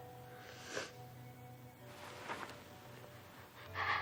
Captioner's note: Marlee sniveling